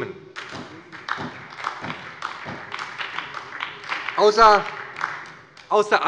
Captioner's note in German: Beifall bei Abgeordneten der SPD und der LINKEN